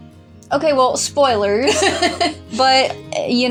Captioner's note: laugh